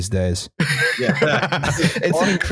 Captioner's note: laughter